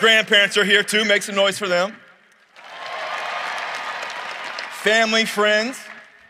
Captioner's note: cheering and applause